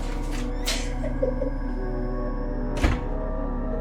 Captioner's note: Ally crying; door creaking; door slamming